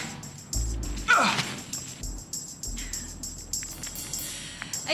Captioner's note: John groans